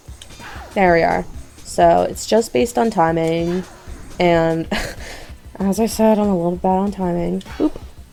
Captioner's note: huff